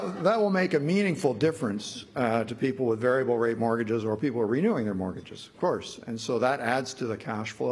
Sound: laughter

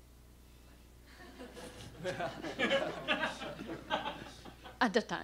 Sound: laughter

